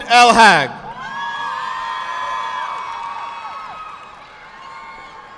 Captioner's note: audience clapping